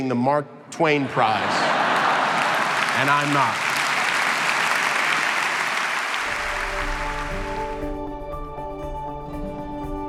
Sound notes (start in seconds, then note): 0.9 crowd laughing; 4.0 crowd clapping; 6.2 upbeat music